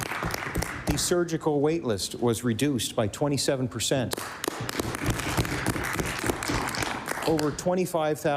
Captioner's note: applause; applause